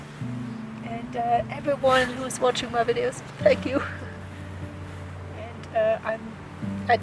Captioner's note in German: lacht